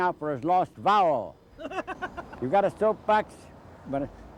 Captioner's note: laughs